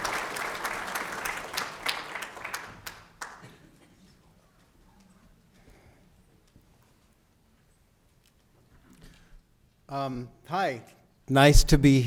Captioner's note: applause